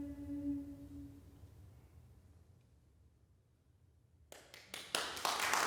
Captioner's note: silence; applause breaks out